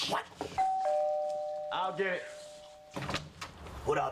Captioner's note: ring